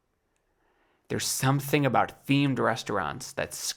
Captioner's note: none